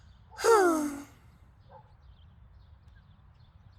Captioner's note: Goofball sighs